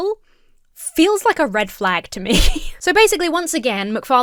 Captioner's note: chuckles